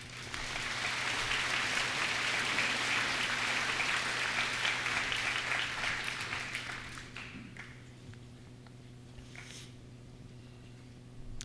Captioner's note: applause